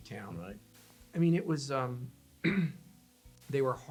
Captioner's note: clearing throat